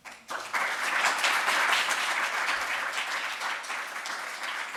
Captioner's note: audience applauding